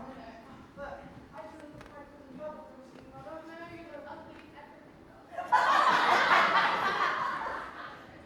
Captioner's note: audience laughs